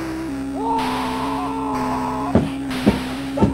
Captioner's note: screams in a pillow; scrams and cry